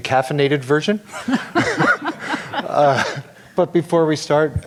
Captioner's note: laughing